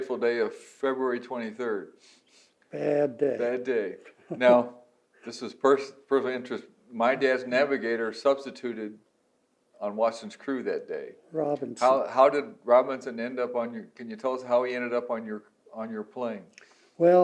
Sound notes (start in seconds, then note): 3.9 laughs